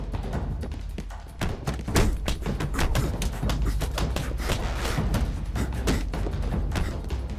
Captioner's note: dramatic music; punches and kicks smacking